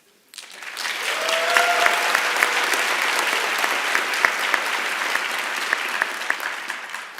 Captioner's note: applause and Cheering